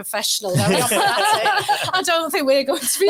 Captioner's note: audience laughing